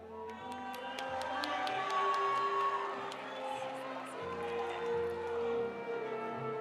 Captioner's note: audience applauding; audience cheering